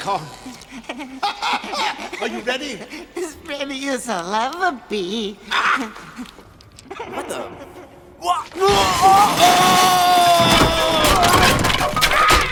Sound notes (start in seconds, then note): 0.7 both laugh; 6.8 laughs